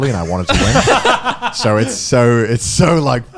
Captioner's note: laughing